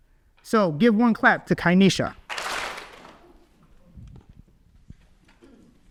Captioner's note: audience claps